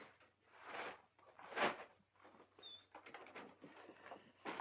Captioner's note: paper rustling